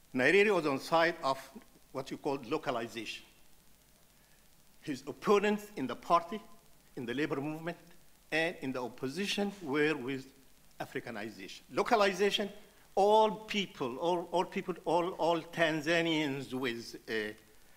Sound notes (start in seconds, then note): none